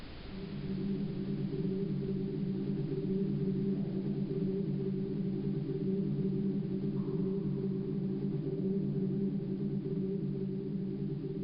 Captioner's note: echoey hum